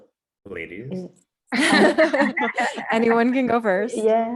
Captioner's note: laughing